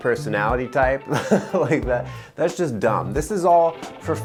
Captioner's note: laughs